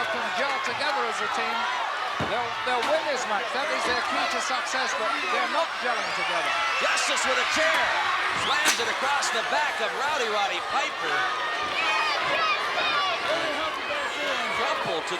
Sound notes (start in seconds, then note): 7.9 chair thudding